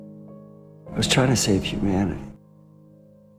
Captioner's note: voiceover